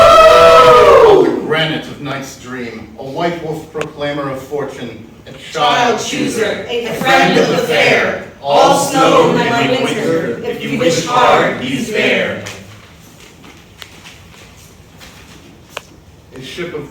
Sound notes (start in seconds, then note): 0.0 all howling; 5.7 in Unison; 12.0 shuffling paper